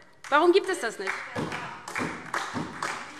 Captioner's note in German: Beifall DIE LINKE, SPD und Freie Demokraten